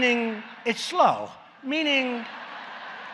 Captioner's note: laughter